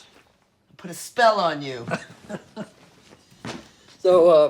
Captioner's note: laughing